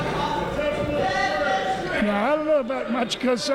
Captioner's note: yelling